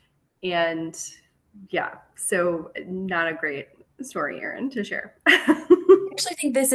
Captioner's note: laughter